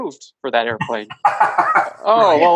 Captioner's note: laughs